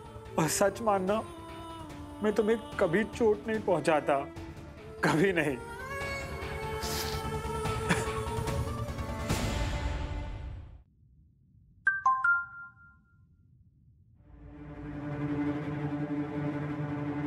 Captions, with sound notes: 'But to be honest,' 'I would never hurt you.' 'Never.' [crying] [phone chimes] [pensive music playing]